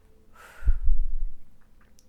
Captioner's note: sighs